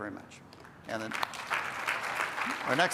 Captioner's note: applause